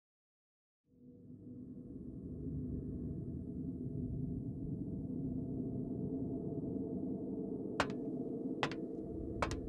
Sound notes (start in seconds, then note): 8.6 footsteps